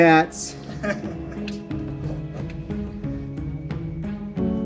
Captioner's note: laughing